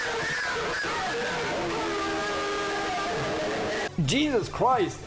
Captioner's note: blaring audio